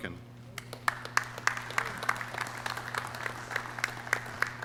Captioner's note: clapping